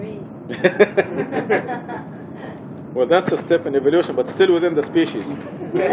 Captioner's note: gülüyor